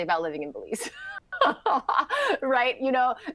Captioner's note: laughter